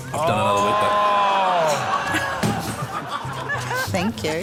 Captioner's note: audience exclaims, laughs; laughs